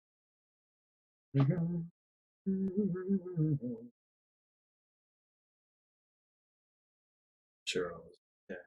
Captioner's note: hums